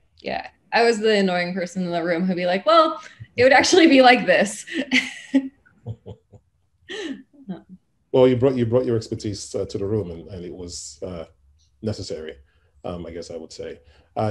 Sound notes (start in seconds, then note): 5.8 laughs